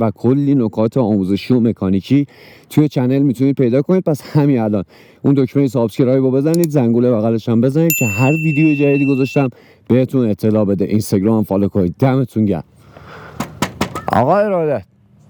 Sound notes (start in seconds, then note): 13.5 knocking door